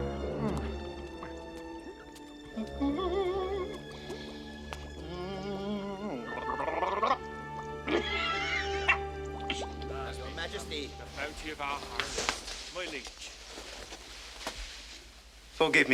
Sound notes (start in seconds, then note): 3.5 humming; 7.2 gargling; 7.8 laughs